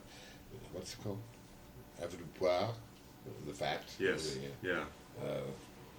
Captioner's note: foreign language